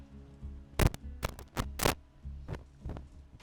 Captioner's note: microphone crackles